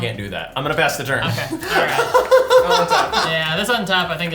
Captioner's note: laughing